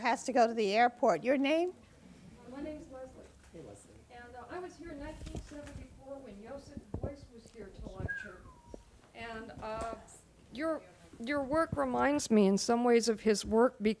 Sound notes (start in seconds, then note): 8.0 whistles